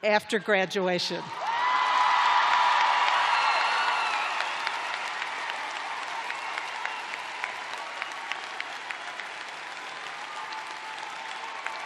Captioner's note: cheers and applause